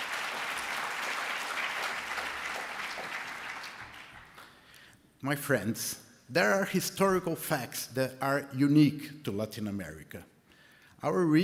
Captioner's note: applause